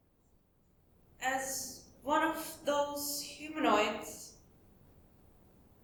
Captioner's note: affected tone